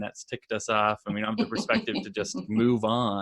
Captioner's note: laughs